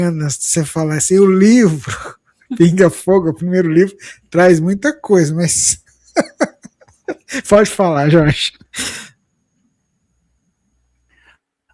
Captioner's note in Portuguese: risadas